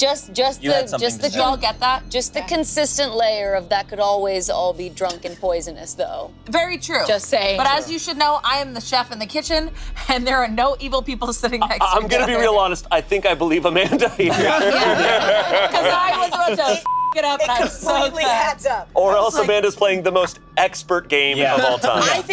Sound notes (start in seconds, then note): 12.0 laughs; 13.7 group laughing; 16.8 beep